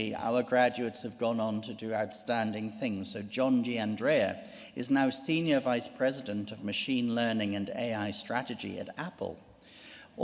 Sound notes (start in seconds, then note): none